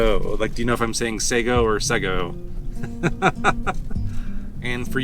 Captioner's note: laughs